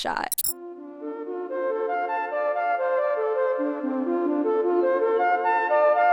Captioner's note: transition squeaks; uplifting instrumental music